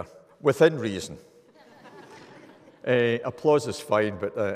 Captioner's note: audience laughing